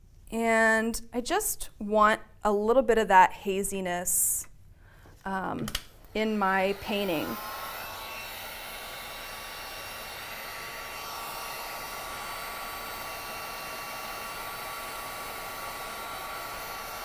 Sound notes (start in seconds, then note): 7.1 buzzing